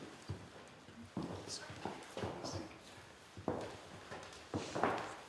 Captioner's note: whispering